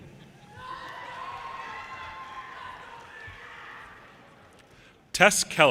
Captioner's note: audience cheers and applause